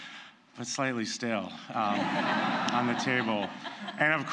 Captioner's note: laughter